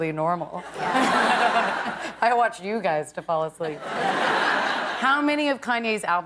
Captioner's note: laughter